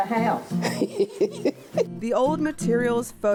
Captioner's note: laughs